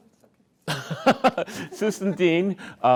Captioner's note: laughs